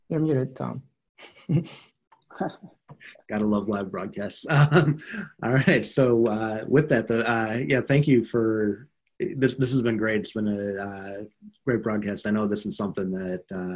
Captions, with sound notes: - You are muted Tom. (chuckles) - Gotta love great broadcast. (laughs) All right, so with that, yeah. This has been great. It's been a great broadcast. I know this is something that,